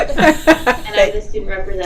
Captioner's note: laughing